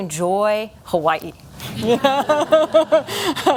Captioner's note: laughter